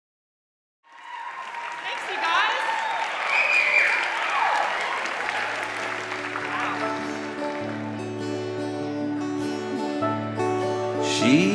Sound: applause

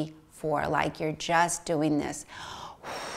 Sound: exhales

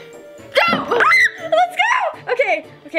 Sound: yelps

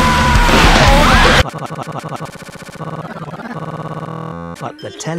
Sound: glitchy stuttering

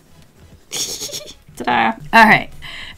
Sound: giggles

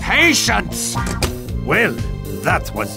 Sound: shuts door

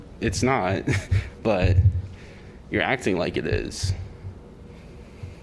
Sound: laughter

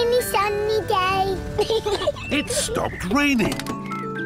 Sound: peppa pig laughs

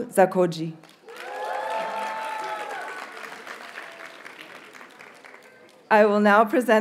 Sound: audience cheers and applauds

